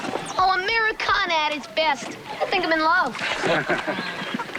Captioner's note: chuckles